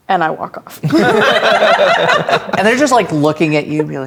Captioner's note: players laughing